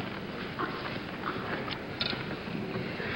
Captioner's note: papers rustling